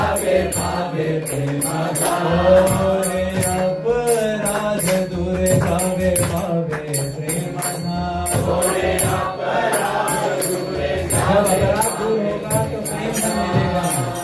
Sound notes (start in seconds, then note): 0.0 singing; 0.7 music and singing; 3.8 chanting